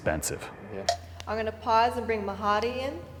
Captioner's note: air whooshing